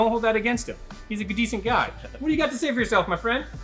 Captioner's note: chuckles